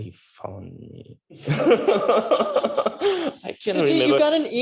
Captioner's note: laughter